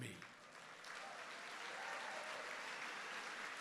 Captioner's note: applause